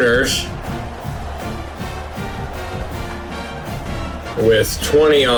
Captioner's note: crowd Noises